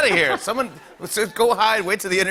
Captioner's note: laughter